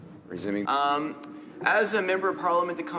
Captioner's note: speaking French